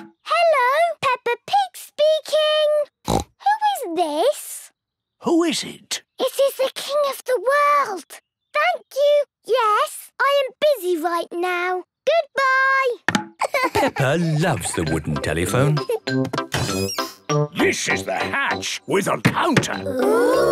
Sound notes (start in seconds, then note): 3.0 snorts; 13.4 laughing